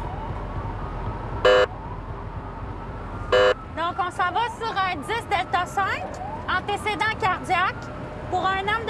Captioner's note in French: sirènes; avertisseur sonore